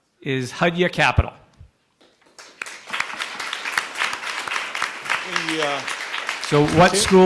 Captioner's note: applause